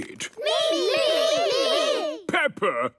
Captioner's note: calling out in turn